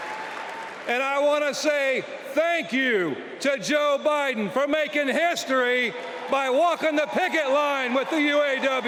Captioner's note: cheers and applause